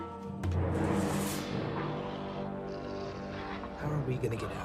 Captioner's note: sinister music; sphinx growling